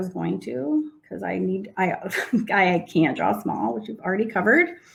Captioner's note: laughs